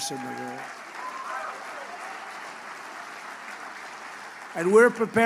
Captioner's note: applause